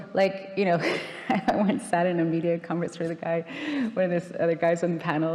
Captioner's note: laughing